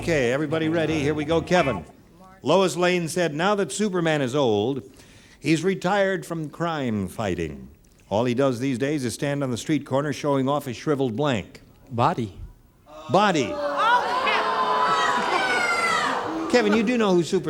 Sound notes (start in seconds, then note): 12.9 audience booing